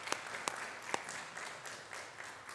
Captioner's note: applause